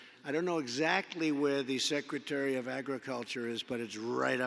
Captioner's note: none